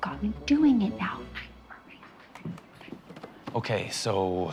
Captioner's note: whispering